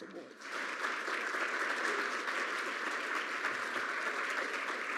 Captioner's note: audience applauds